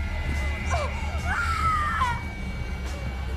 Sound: shrieks

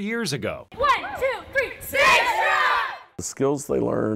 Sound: cheering

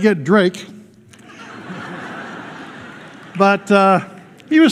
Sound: laughter

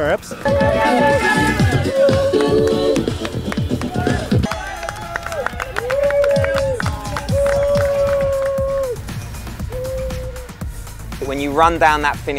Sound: applause & Crowd Cheers

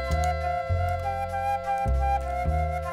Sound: keyboard clicks

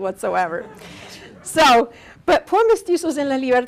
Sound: audience laughing

